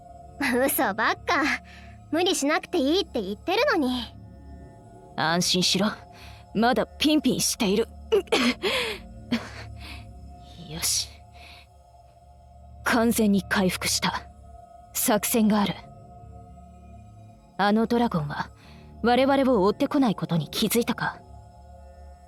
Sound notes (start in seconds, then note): 8.1 cough